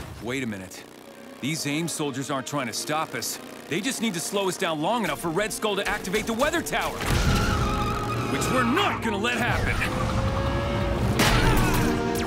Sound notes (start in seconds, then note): 7.0 tires screeching